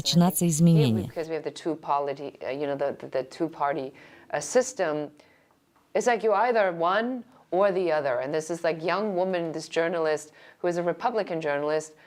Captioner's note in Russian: Разговаривают на английском